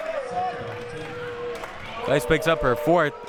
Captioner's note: audience chanting